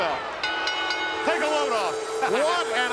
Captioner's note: bell rings